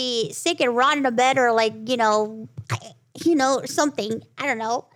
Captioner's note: croaking sound